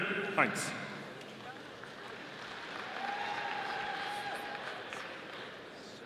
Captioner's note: audience applauding